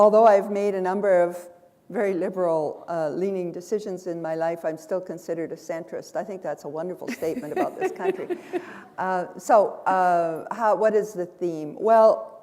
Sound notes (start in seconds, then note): 7.6 chuckle